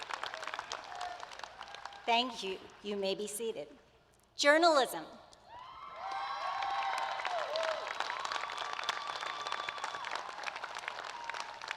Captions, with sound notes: [ APPLAUSE ] Thank you. You may be seated. Now, to our bachelor's candidates. Will the candidates please rise as their program is announced.